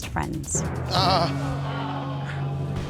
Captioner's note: groans